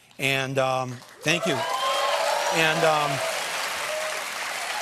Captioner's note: cheers and applause